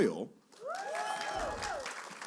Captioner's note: cheering